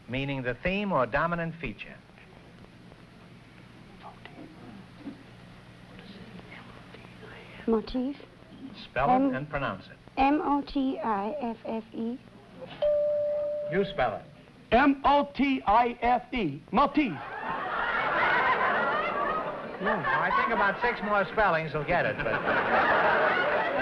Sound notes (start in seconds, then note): 4.1 whispering; 12.8 bell rings; 22.0 laughter